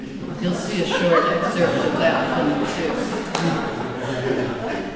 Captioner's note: laughter